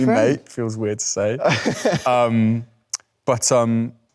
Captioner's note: Leo chuckles